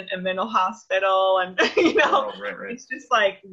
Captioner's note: laughs